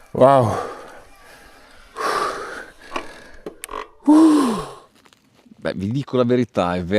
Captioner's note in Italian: suono gutturale